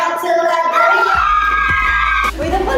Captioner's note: screams